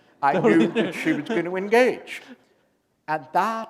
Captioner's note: chuckle